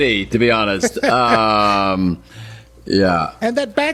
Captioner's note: both laughing